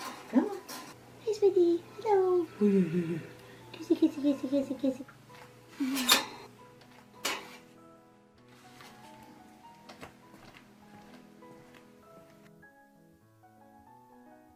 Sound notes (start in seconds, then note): 2.6 chuckles; 5.8 cage door clanging; 10.1 gentle classical music continues